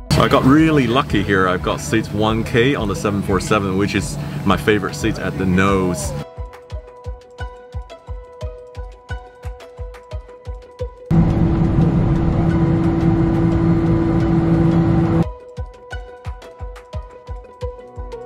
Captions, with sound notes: I've gotten really lucky here; I've got seat 1K on a 747 which is my favourite seat at the nose. (soft music) (engine roaring) (soft music)